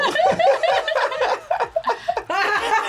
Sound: both laugh; laughs

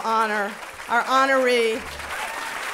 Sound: cheers and applause

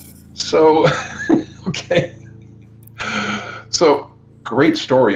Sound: laughs

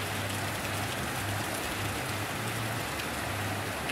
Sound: rain Sounds

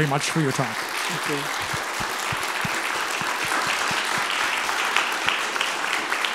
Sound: audience applauding

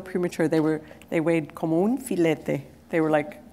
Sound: foreign language

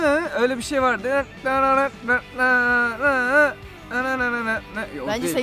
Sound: beatboxing the melody again

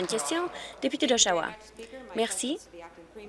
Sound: applause

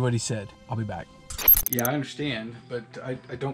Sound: static

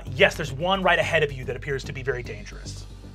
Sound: none

